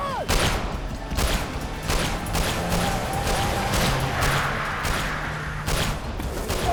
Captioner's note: gunshot